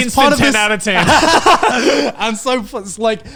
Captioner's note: everyone laughs